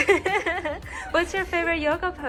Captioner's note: laughing